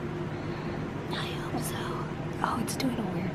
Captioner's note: whispers